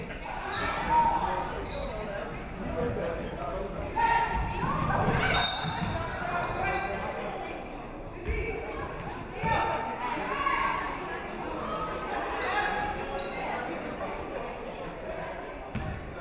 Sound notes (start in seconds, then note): 5.3 referee whistles